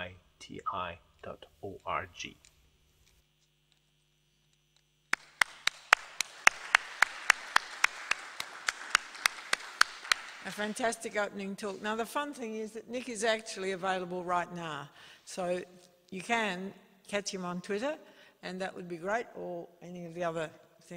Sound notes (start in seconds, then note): 8.1 applause